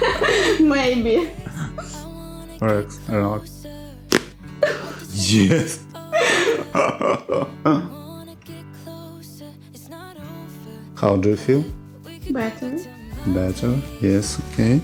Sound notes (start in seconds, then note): 0.0 laugh; 4.1 crunches of bones; 6.0 laugh